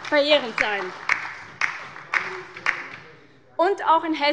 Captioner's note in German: Beifall bei der SPD